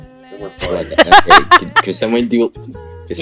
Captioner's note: laughs